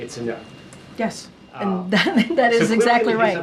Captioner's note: laughs